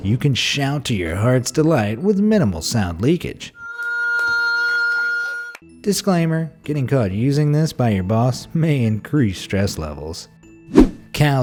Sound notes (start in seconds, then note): 3.6 woman screaming